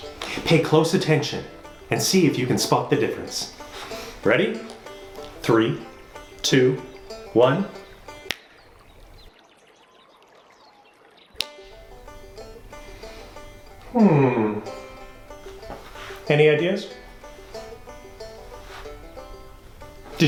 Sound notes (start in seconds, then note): 8.2 snaps; 11.6 banjo strumming; 17.0 banjo strumming